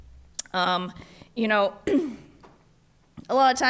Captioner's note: clears throat